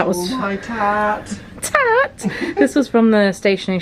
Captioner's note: laughing